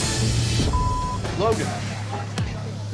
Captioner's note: beep